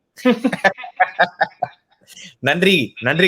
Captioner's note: laughs